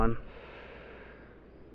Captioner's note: deep inhale